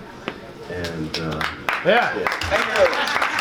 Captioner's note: audience claps